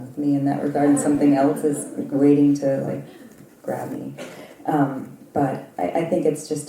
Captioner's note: laugh